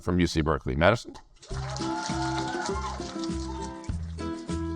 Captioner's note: audience applaud; upbeat music